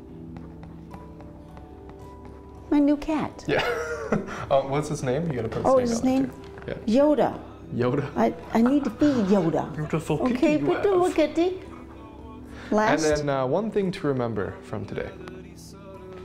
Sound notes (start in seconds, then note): 3.5 laughs; 8.5 laughs